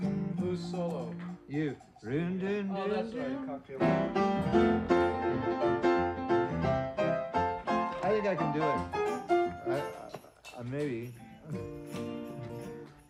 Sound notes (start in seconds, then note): 2.1 humming; 3.7 piano plays